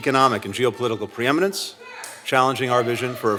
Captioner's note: shouting